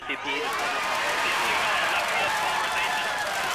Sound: wild celebration; indistinct chatter

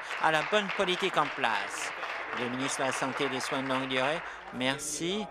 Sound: applause

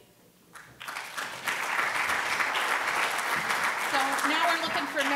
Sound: applause

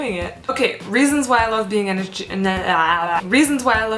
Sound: speaks gibberish

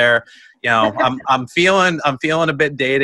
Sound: laughs

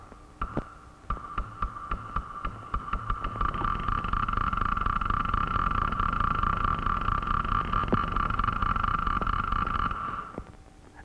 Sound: background noise like clock ticking very fast

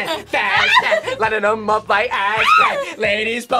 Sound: sings along; screams; sings along

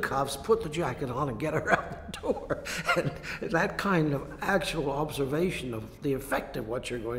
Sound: laughs

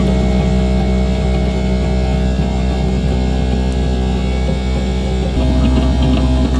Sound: bilge pump running

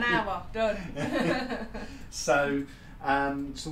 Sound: laughter

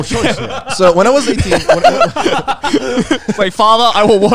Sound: all laughing

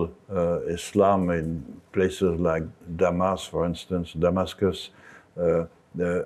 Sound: speaks in French

